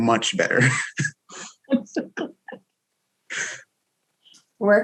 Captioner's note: all chuckles